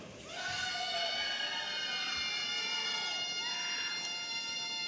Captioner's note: audience cheering